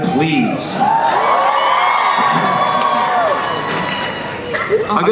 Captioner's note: crowd cheering